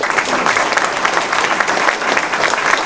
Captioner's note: applause